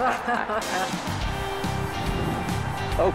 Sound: announcers laugh

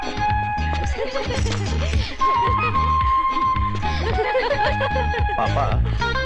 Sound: laughs

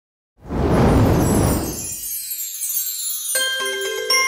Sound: fire blowing

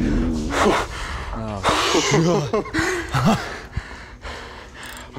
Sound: laughter

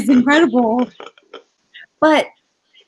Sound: laughing

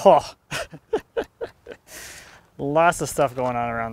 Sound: laughs softly

